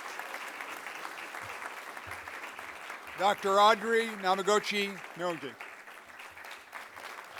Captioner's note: applause